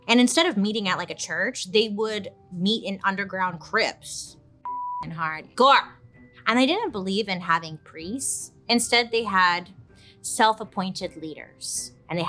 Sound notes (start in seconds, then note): 4.7 beeps